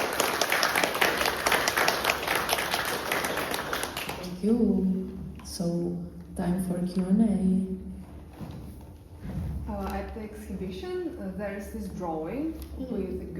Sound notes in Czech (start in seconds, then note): 0.0 Potlesk